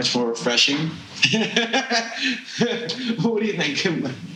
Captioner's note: laughing